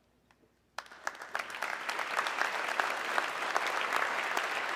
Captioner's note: audience clapping